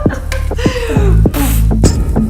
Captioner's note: laughter; blows raspberry; rhythmic music